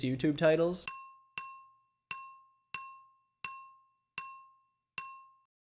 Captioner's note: service bell rings